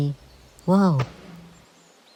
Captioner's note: thud